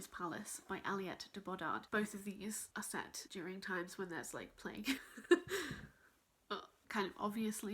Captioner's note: laughs awkwardly